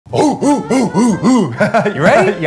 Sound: grunting noises

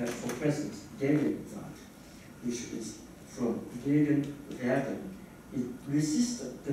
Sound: german

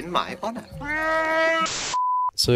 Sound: Chewbacca screams

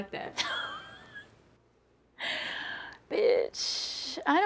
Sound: Yvette laughs loudly

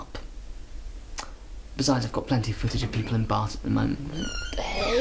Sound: door opening

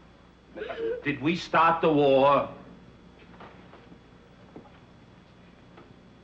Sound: Anne crying

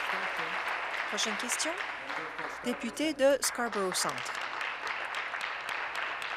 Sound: applause

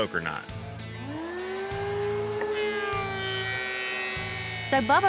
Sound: drill revs

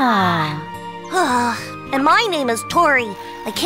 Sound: Tori sighs

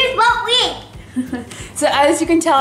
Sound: laughs

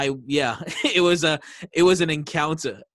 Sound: laughing

